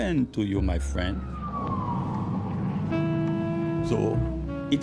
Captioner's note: siren